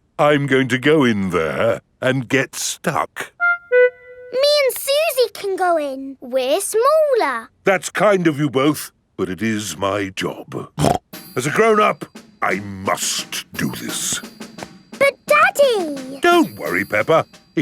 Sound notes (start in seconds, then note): 10.7 snorts